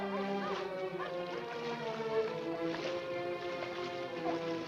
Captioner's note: water sloshing